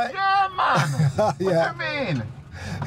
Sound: laughing

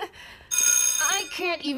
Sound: bell rings

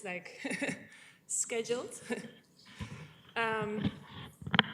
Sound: chuckling

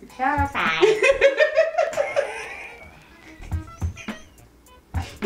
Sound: both laughing

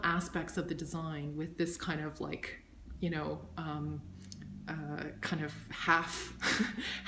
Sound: laughs

